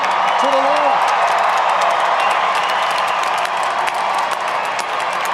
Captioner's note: audience applauding